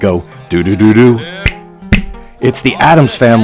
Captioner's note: finger snaps